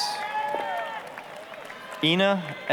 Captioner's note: applause, cheering